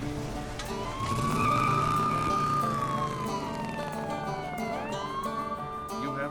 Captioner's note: closes truck door; POLICE SIRENS,</i> <i> TIRES SCREECH